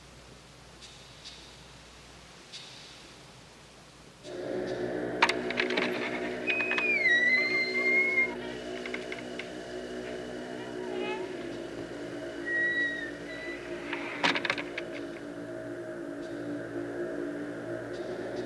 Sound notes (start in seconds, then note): 0.1 eerie music; 4.4 door opening; 6.7 creak; 14.4 door closing